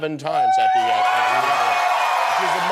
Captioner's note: cheering